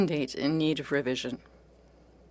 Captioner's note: speaking in French